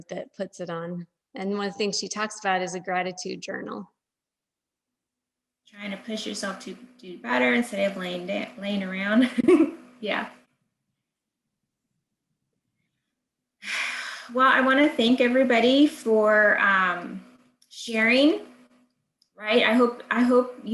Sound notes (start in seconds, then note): 9.2 chuckles; 10.4 exhales